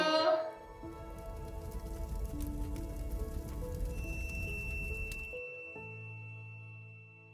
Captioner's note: soft music; torch blazing